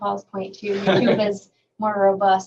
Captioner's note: laughing